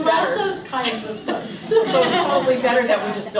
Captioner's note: laughter